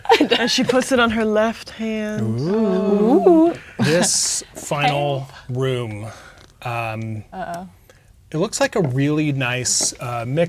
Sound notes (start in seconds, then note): 0.0 laughing; 6.3 chuckles